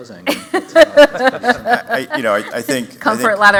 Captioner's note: laughter